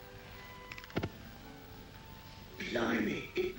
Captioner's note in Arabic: تشتعل النيران